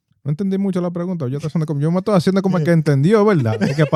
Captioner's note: speaking Spanish